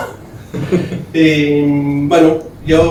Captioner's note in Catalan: rialles